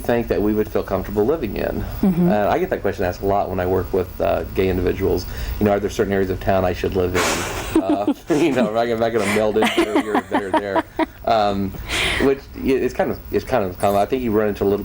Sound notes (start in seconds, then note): 10.9 laughing